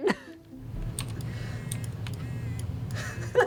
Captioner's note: vibrating Noise